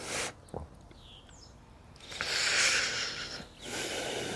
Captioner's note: inhales deeply